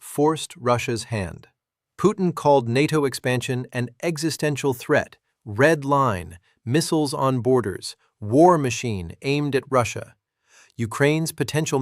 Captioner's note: sarcastic